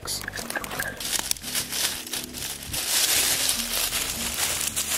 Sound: leaves rustle

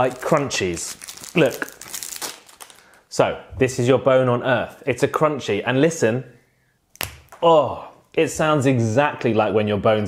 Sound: crack

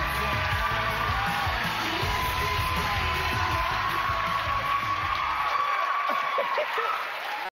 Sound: cheers and applause

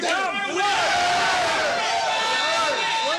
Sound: cheering

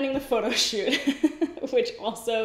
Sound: laughs

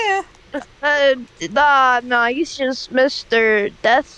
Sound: stammers

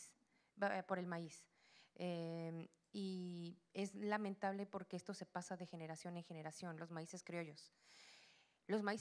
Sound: Spanish language; Spanish language

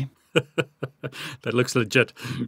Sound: laughing

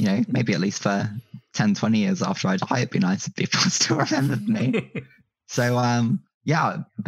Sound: laughs

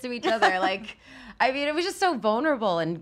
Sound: laughs

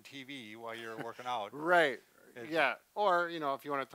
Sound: laughs

